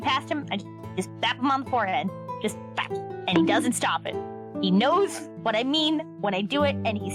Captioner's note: bonk